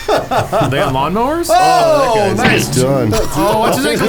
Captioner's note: laughs; shouts